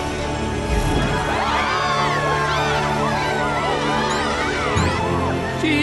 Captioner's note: delighted squeals